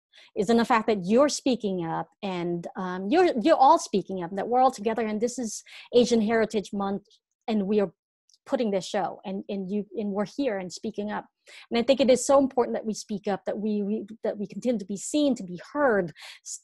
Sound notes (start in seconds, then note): none